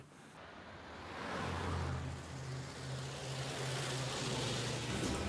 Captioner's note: car engines revving